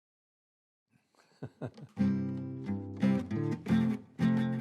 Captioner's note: chuckles